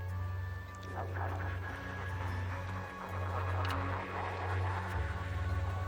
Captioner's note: ghostly voices chattering